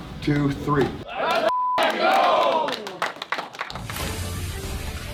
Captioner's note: players cheering; dramatic music